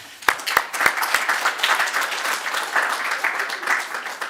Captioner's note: audience clapping